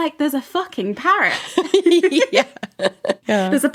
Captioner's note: laughing